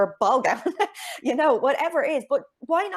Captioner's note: chuckles